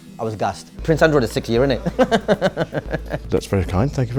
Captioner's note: laughs